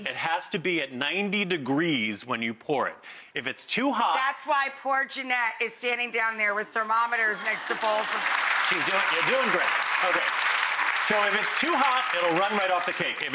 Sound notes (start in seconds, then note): 9.9 applause